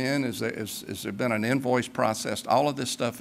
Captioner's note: none